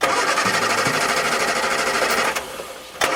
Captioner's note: engine splutters